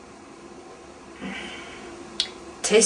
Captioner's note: sigh